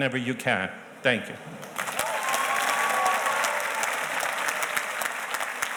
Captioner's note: audience cheers and applauds